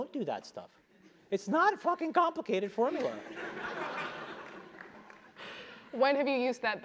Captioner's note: laugh